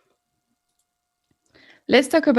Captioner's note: mouse clicking